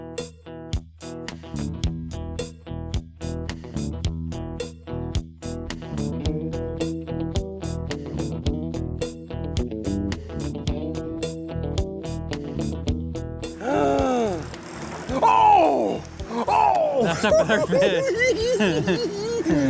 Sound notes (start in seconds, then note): 13.6 gasps; 17.5 giggling